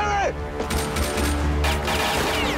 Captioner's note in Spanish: Disparos